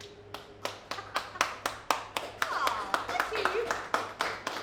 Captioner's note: applause